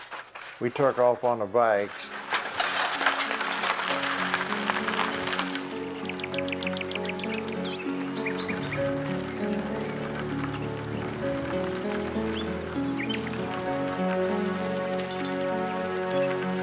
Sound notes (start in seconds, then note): 5.6 birds chirping; 12.0 soft music